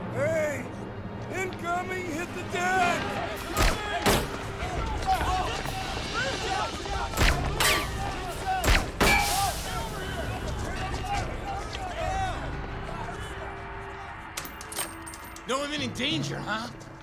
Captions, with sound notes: - Hey, incoming, hit the deck! (gun firing) (soldiers yelling) - No imminent danger, huh?